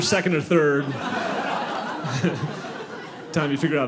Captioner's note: audience laughing